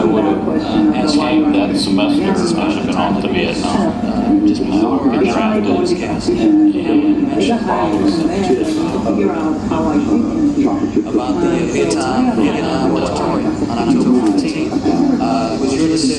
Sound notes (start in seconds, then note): 4.2 female voice speaking English; 11.2 male voice speaking English